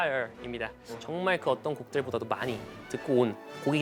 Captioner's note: confident